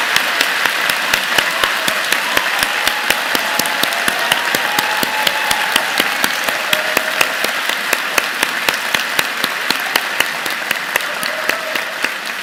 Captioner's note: applause